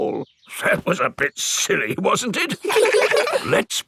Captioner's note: in teddy's voice; in normal voice; kids laugh